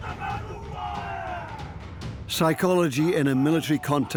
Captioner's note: men shouting